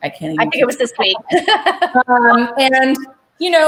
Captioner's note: chuckles